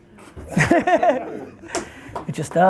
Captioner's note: laughs